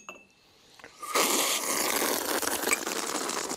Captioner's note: slurp